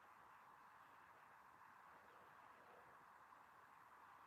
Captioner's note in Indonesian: none